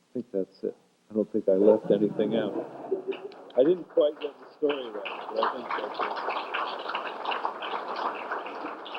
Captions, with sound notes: I think that's it. I don't think I left anything out. [laughter] I didn't quite get the story right, but I think that's it. [applause]